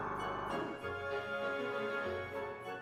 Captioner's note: machine stops